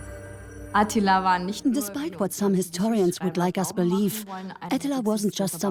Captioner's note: in German; dubbed in English